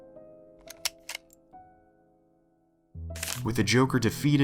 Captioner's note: hammer clicks